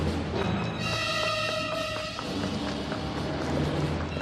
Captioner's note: footsteps tapping